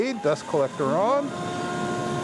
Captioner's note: bandsaw roaring